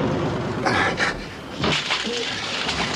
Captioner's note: blinds clicking